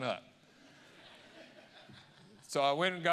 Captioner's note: audience laughing